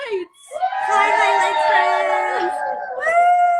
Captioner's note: folks cheer